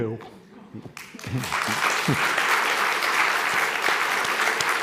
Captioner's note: audience applauding